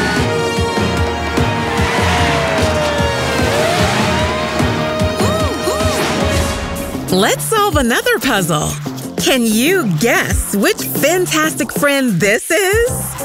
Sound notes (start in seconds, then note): 0.1 sirens blaring; 4.9 hooting